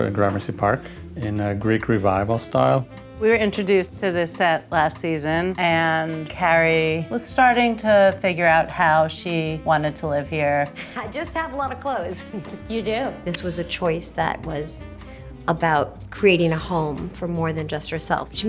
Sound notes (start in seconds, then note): 12.2 chuckles